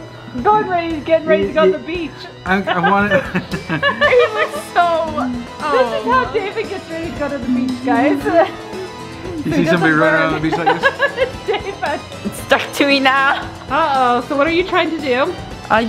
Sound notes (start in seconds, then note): 2.6 laughs; 2.6 laughing; 9.2 laughing